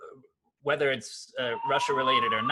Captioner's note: fire alarm chirps